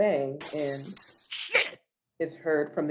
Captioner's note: bottle breaks